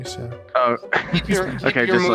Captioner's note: laughing